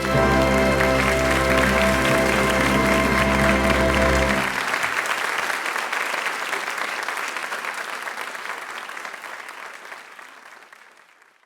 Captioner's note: applause